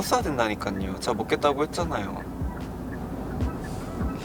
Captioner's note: whining